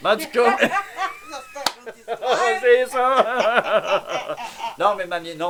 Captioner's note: laugh